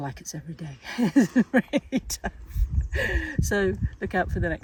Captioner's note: laughs